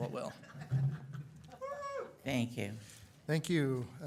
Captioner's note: audience laughs